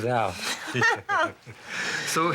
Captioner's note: laughing